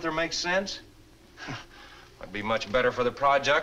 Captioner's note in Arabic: يسخر